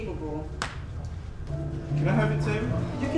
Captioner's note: snap